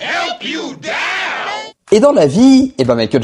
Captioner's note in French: cri